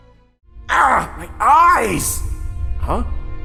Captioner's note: Rudy Voiceover